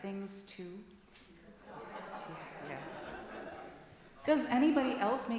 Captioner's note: laughter and chatter from congregation